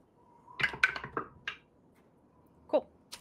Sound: dice clacking

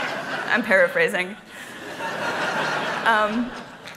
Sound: laughter

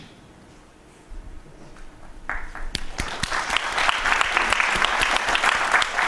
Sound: applause

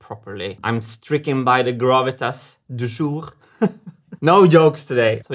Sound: chuckles

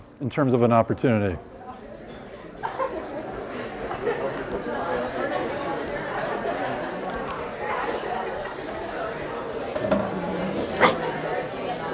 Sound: chatter

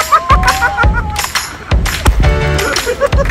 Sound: cheering

